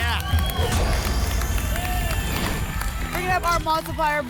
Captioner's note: boom; whoosh